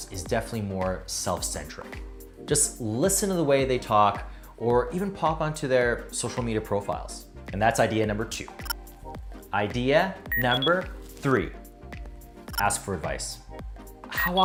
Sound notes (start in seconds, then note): 8.7 electronics chirping; 10.3 electronics beeping